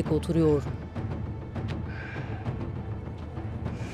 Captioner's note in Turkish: Nefes sesi